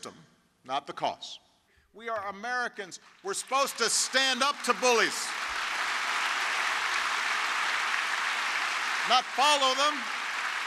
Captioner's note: applause